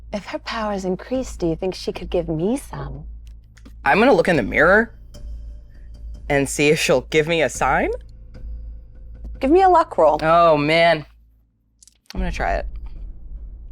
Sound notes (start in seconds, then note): none